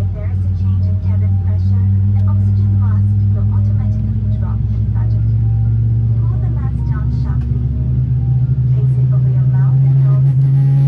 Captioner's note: sound of engine being spooled up